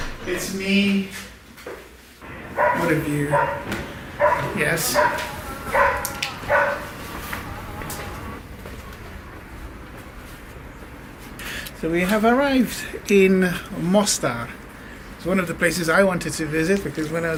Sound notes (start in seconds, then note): 0.0 door closing; 2.3 dog barking; 6.7 arabic chanting